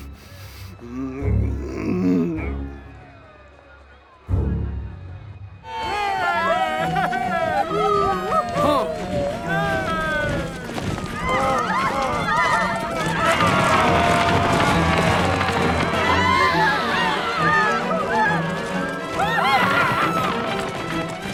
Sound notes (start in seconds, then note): 0.7 Pharaoh grumbling; 5.9 all cheering; 13.8 all yelling; 16.2 all screaming